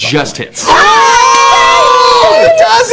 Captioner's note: cheering